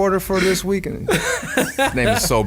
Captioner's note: laughing